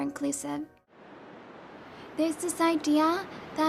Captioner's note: sound of waves